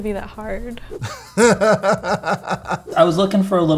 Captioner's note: laughing